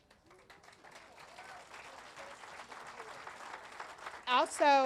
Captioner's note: audience applauding and cheering